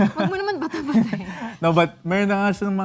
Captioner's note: laughing